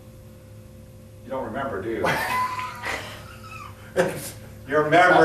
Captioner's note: both laughing